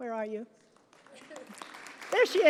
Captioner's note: applause